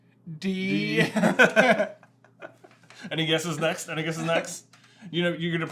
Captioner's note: chuckling